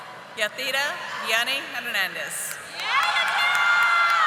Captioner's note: audience applauding